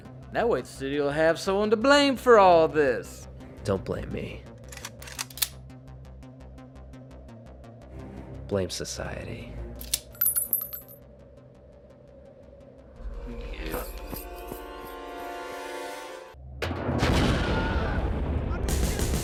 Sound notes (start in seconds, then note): 4.6 guns clacking; 5.6 intense electronic music; 9.8 pins clinking; 16.8 grenades exploding; 17.4 gang members screaming